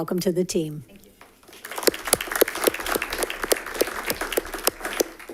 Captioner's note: audience applauding